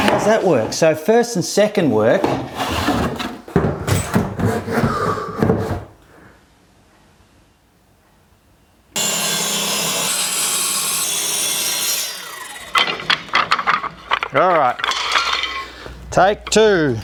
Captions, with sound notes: How's that work? So, first and second work. (machine running) all right. Take two.